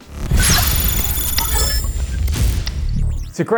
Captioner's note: electronic buzzing